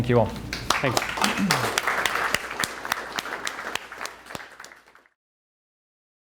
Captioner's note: crowd applauds